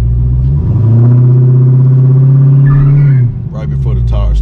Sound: engine revving

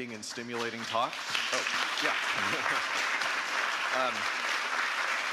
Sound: audience applauding

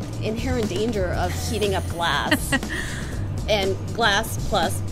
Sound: laughs

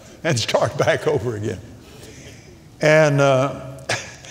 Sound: laughs

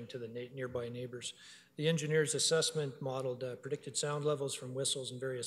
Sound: none

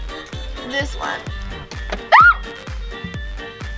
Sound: screaming

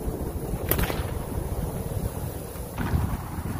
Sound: whip cracks

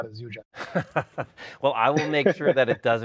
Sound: both laughing

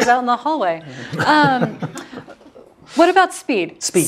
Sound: laugh

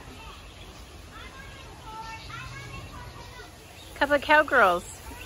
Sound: birds chirping

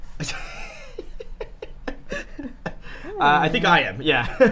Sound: laughing

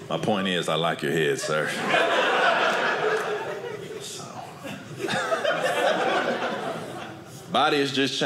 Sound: audience laughing

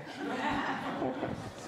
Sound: audience laughs

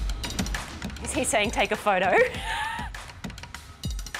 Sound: laughs

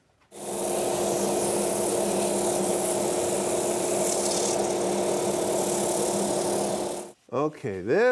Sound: machinery buzzes

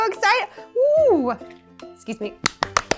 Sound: claps

